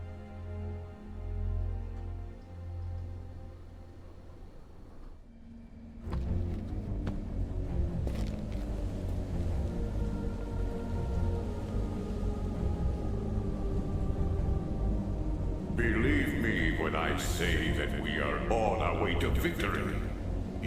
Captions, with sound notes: (dramatic music) (dramatic music) (wind howling) - Believe me when I say that we are on our way to victory.